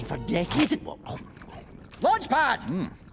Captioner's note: Launchpad chomping